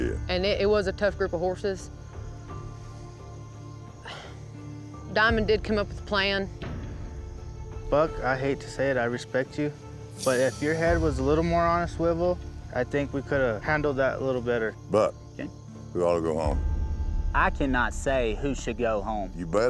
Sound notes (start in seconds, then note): 1.5 sighs